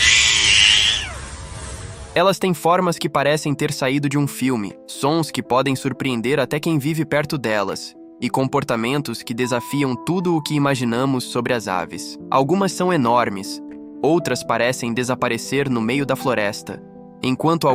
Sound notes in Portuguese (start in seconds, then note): 0.0 choro; 1.7 grito